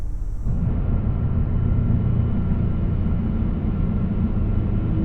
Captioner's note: engine rumbling